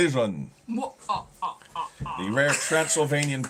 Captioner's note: laughing